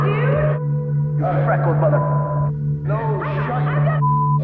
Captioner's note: beep